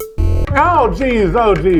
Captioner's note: electronic whirring